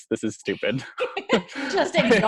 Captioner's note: laughs